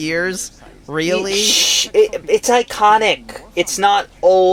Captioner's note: shushes